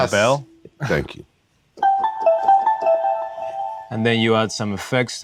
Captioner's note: tones playing